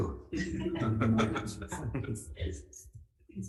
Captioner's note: laughing